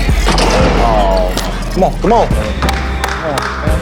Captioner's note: applauds